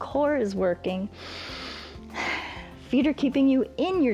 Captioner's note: inhales and exhales